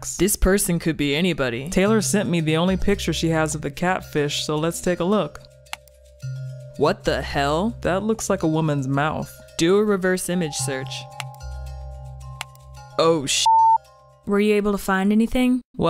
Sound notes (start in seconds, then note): 5.8 clicks; 11.2 clicks